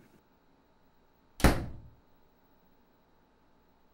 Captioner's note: door slams